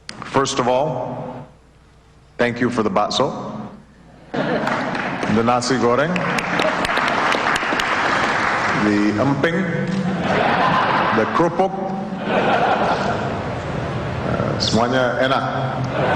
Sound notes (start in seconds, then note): 5.4 non-english speech; 5.9 applause